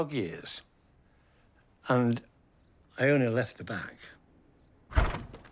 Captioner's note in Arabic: يفتح الباب